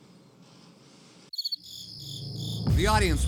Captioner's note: crickets chirping